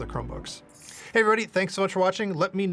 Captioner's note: metal scraping